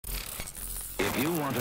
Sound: film flickering

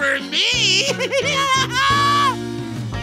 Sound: laughing

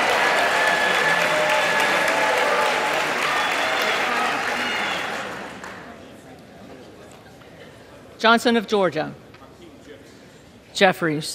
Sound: applause

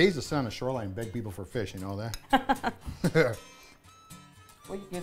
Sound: laughing

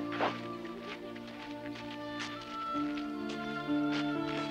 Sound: book clattering

